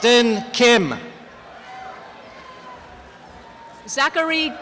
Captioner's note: applause and cheering